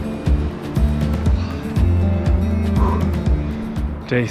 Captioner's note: panting